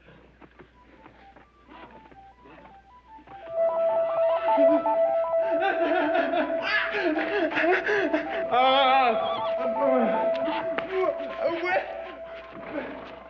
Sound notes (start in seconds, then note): 5.5 sobbing; 10.6 yelling